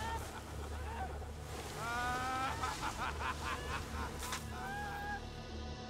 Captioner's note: men laughing; water spraying; ominous music; yelling